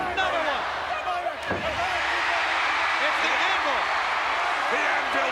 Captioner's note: applause